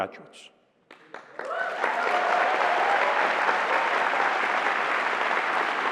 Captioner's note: cheering